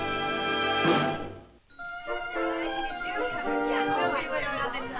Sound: chatter

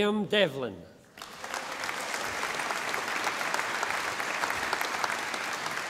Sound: audience applauding

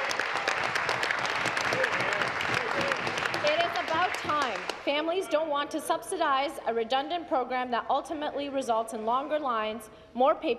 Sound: applause

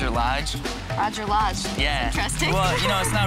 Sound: laughs

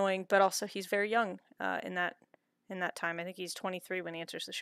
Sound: none

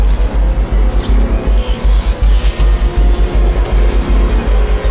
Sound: electricity buzzing

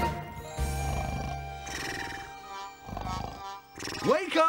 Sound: Digger snoring

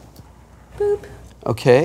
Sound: boop

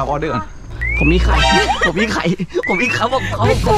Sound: laughs

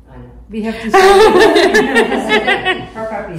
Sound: laughter

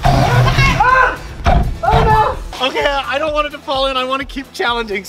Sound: yells

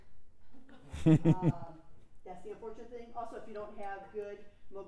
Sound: laugh

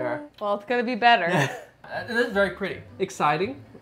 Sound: chuckles

